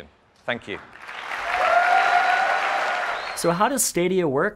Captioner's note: audience clapping and yelling